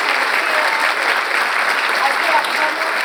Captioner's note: audience applauds